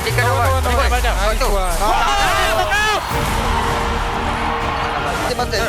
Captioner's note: shouting